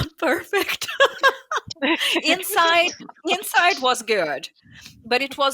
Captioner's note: laughs